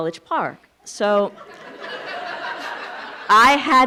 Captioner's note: laughing